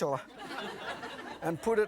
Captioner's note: audience laughing